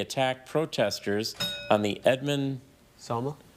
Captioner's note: bell dings